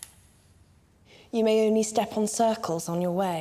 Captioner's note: marker on paper; typewriter keys clacking